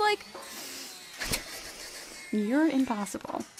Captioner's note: train chuchu sounds